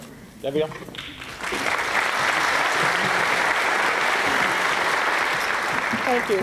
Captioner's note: applause